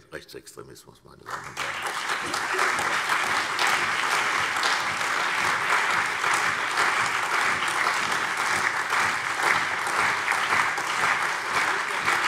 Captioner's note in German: Lebhafter allgemeiner Beifall